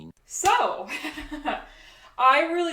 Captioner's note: laughs